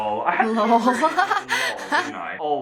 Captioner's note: laughs